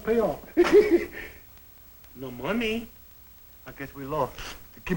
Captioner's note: laughs